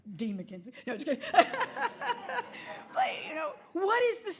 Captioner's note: laughing